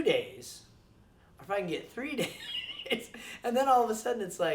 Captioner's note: laughs